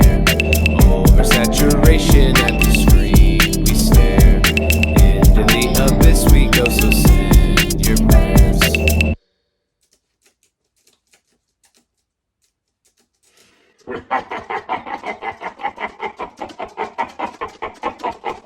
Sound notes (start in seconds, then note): 8.6 typing; 13.9 laughter